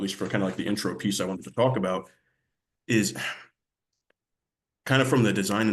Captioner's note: sighs